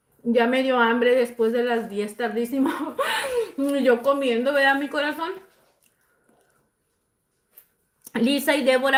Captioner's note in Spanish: risas